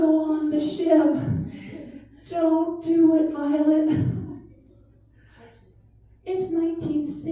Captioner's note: laughter